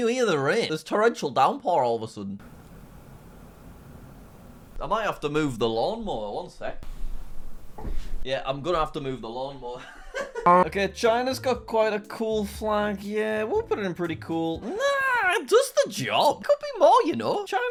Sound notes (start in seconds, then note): 10.3 laughs